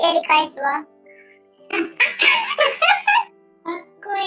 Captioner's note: laughs